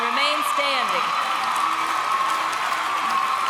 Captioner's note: applause